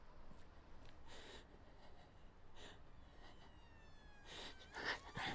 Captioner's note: Marianne panting; siren whining